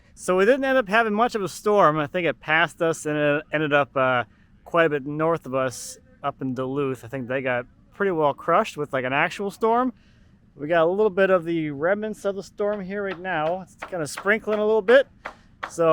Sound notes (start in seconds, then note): none